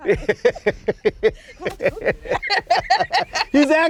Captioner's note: laughter